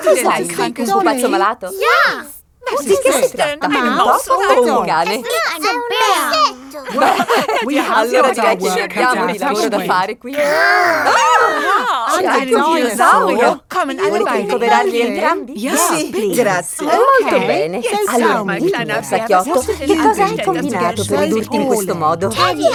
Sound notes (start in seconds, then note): 7.2 chuckling; 10.3 mock screaming